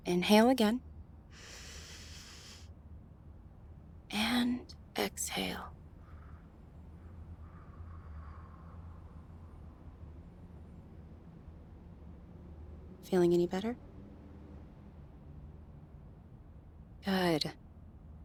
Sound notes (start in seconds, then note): 1.3 deep inhale; 7.5 slow exhale